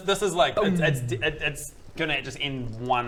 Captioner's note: boom